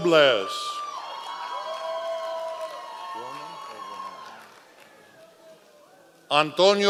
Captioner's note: members of the audience cheering